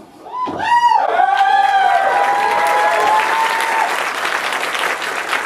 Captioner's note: audience applause